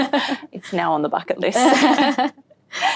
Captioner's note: laughs